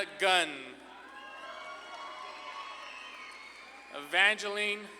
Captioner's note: audience claps and cheers